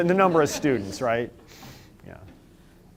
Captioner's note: laughter